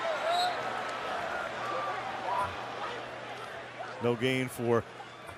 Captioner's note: whistle